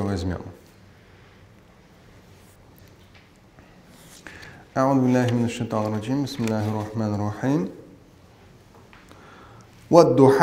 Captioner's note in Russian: Говорит на арабском